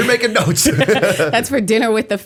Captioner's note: laughter